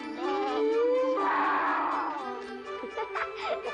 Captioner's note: muffled laughing; roaring; laughing